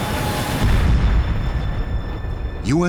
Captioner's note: explosion